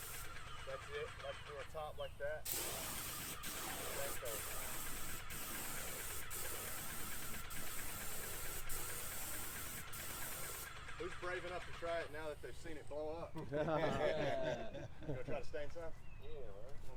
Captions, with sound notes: That's it. Do the top like that. Who's brave enough to try it now that they've seen it blow up? *laughs* You going to try to stain some?